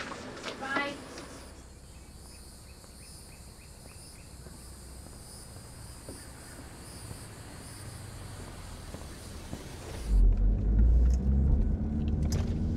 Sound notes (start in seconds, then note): 1.9 crickets chirping; 6.2 vehicle approaching